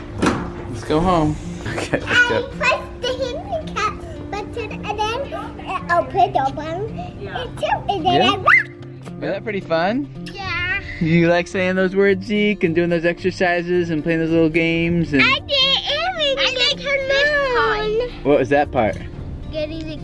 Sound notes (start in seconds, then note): 8.2 squeals excitedly